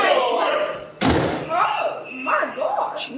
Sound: door slams

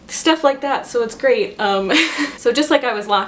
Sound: laughs

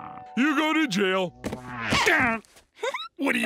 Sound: grunting, Sandy chuckles

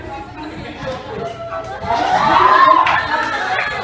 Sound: wailing in despair

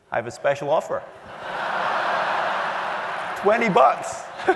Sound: laugh

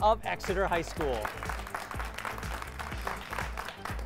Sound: applause

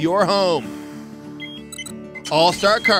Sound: more beeps

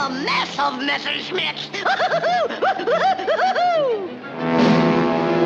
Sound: whooping

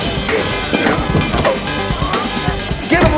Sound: groaning

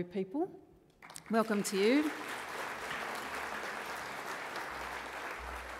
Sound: audience applauds

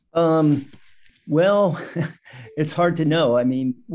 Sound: chuckles

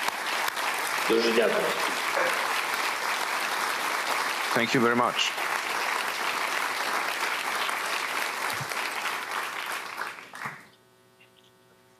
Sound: applause

